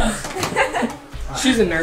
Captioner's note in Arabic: يضحك